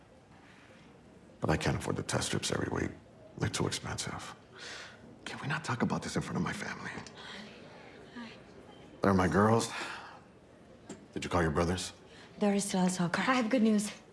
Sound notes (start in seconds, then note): none